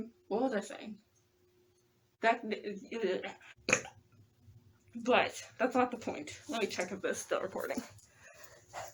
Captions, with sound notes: what was i saying that *stammers* *burp* BUT, that's not the point lemme check if this is still recording